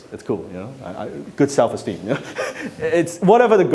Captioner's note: laughs